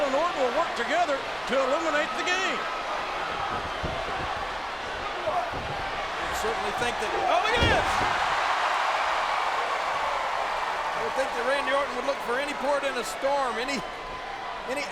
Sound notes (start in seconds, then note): 8.3 applause